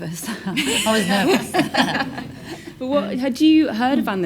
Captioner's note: laughs